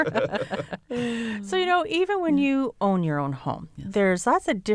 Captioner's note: laughter